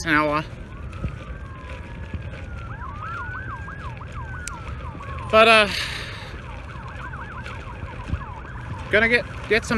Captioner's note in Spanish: lamentos de sirenas